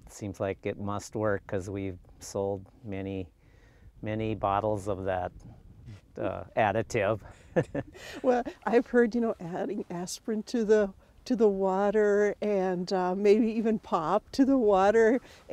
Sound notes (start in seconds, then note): 7.5 laughing